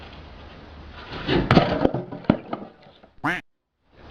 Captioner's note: pipe smashing; duck quacks